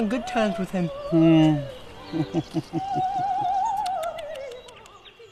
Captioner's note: doctor chuckles